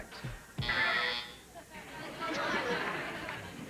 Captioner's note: buzzer; audience laughs